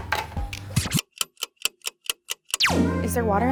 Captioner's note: ticking